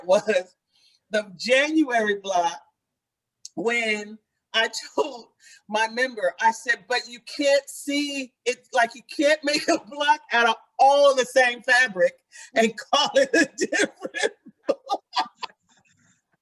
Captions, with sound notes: was the January block when I told my member, I said, but you can't see, it's like, you can't make a block out all the same fabric and call it different (laughs).